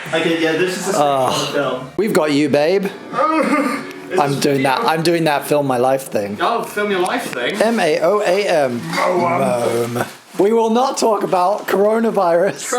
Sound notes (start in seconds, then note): 2.9 groans